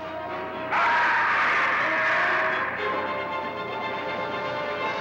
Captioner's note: screaming